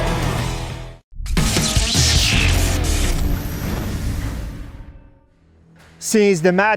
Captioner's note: lively music; electricity crackling